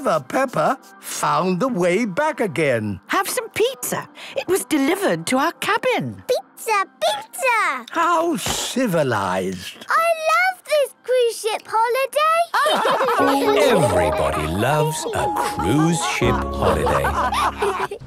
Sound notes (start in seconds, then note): 12.5 all laugh